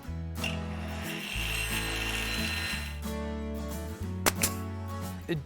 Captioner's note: gentle acoustic music; saw whirring